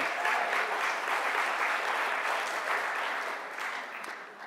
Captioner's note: clapping